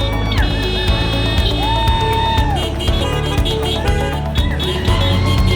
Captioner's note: crowd cheering